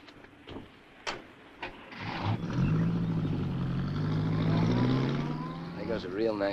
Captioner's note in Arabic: صوت باب السيارة; هدير محرك السيارة